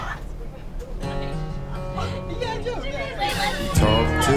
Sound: chatter, laughter

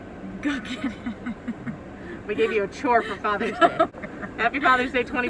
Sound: laughs

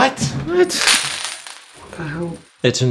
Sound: coins hitting floor

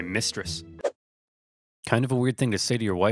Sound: air whooshes

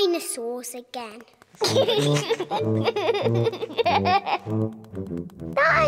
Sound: giggling

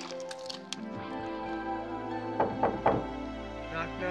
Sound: knock at door

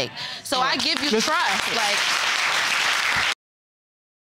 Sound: audience applauding

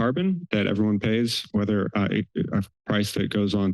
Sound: stammers

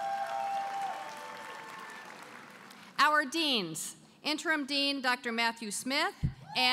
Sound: applause

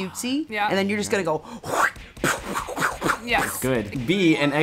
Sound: whacking sounds

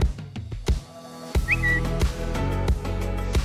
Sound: tweeting sound effect

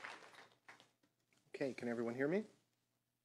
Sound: applause

